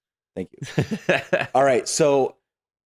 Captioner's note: laughing